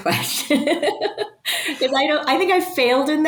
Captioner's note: person laughing